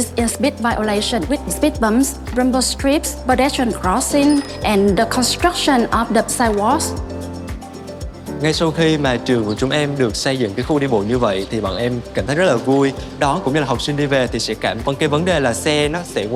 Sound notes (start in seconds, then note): 8.6 speaking Vietnamese